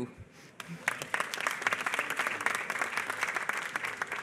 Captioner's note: applause